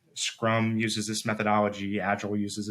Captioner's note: none